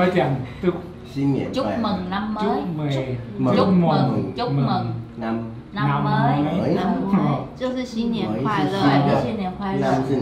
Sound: Vietnamese

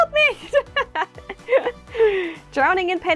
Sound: laugh

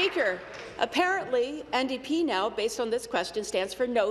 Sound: applause

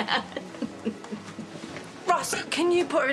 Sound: Faith laughs

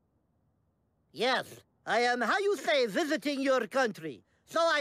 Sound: imitating Russian accent

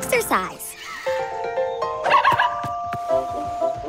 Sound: yipping

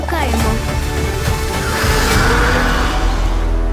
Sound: roaring

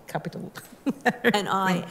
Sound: laughter

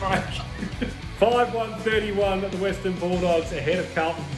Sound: laughing

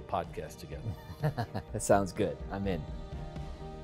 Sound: laughs

